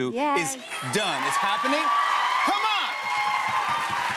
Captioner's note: cheers and applause; cheers and applause continue